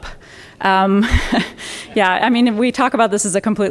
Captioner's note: chuckles